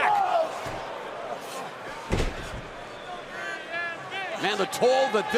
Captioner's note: crowd cheering